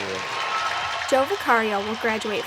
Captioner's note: applause